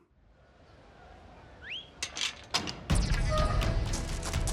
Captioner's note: whistles